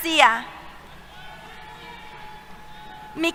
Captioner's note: cheers